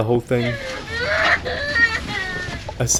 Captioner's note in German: Schreiendes Baby